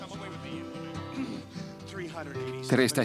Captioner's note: Jon clearing throat